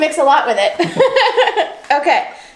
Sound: laughs

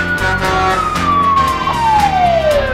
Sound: horn honking; upbeat music

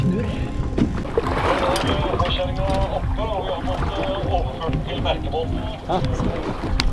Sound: from radio

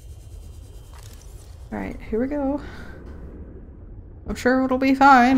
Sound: sounds very nervous

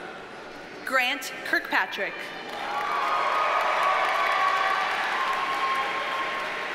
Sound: audience cheers and applauds

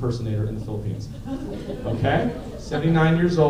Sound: laughter

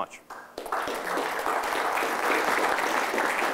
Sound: applause

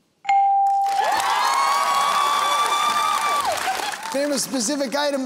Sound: cheering and applause

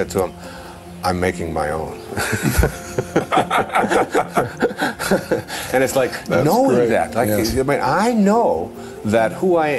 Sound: laughter

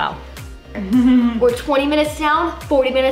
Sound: chuckles

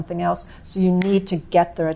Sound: snaps fingers

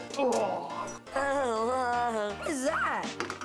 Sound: laughing

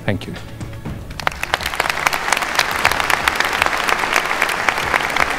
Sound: crowd applauding

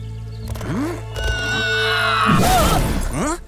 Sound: screaming, thudding

